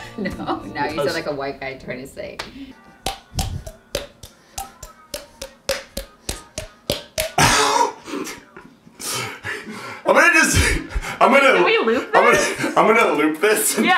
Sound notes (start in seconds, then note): 2.9 popping